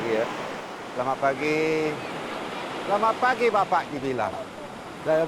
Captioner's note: speaking Indonesian